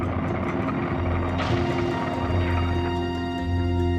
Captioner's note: fire roaring, explosions popping